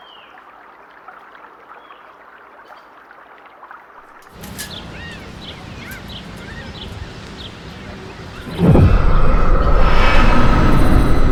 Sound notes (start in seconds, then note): 4.3 blinds rattling; 8.6 ominous music